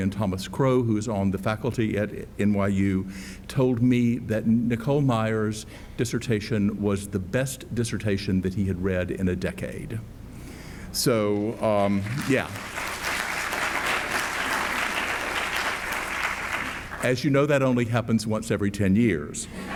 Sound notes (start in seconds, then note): 11.4 audience applauds